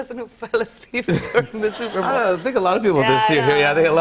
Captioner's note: laughter